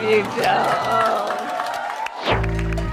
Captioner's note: cheering and applause